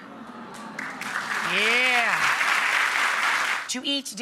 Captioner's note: applause